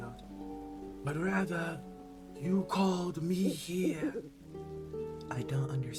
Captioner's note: owl hoot